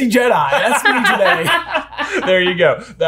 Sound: all laughing

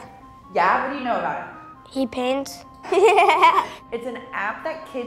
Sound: laughing

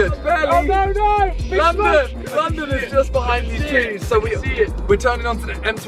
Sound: team mumbling

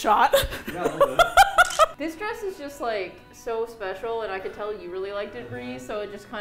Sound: laughs; camera shutter

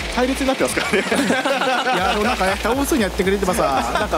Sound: laugh

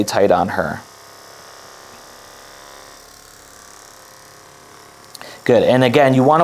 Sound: massage gun whirring

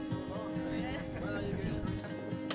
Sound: laughs

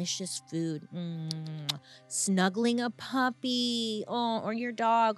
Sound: smooches

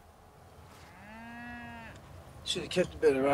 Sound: cattle bleating

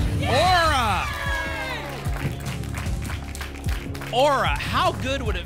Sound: applause and cheering

